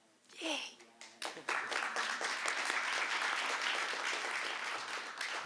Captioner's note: applause